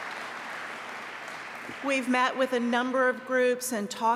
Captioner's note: applause